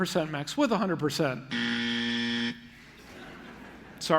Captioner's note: buzzer; laughter